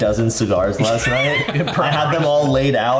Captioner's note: laughs